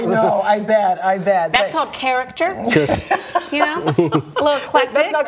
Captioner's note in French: laughter